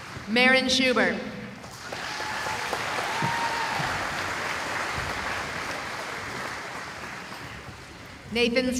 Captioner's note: applause